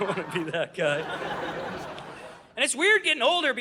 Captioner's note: audience laughing